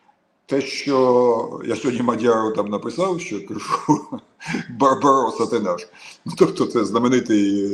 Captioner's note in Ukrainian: сміх